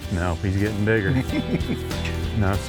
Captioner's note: laughs